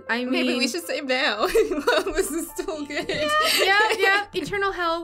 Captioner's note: laughing